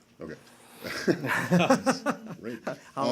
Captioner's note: laughter